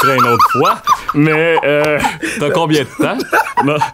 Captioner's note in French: rires